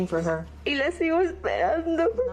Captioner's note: mom speaking native language